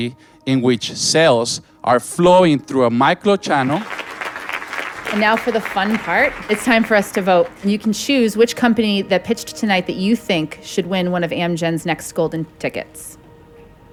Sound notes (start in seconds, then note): 3.5 applause